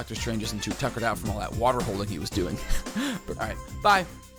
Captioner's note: laughs